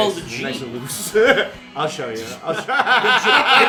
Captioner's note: laughter